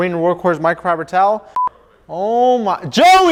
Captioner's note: beep